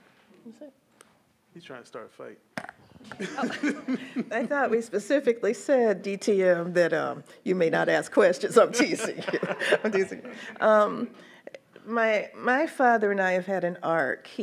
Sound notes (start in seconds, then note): 3.0 laughs; 8.7 laughs; 8.8 everyone laughs